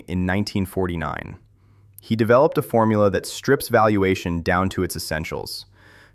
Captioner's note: thoughtful